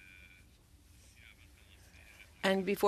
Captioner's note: speaking French